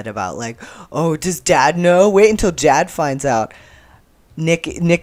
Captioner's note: obnoxious bro voice